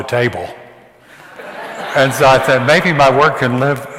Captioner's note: audience laughs